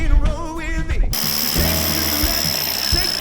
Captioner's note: tool buzzes